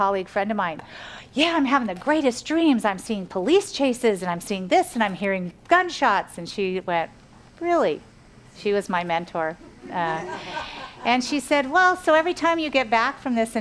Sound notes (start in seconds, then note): 10.0 audience laughs